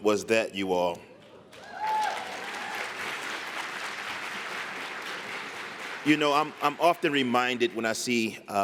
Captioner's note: applause